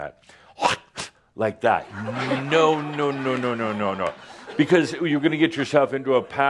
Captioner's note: laughter